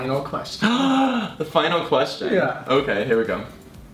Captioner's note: gasps